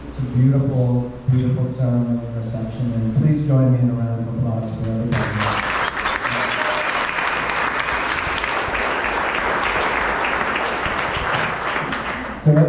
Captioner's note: applause